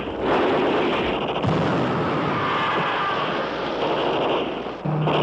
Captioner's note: explosion; scream